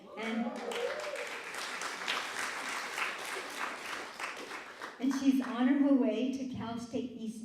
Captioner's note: applause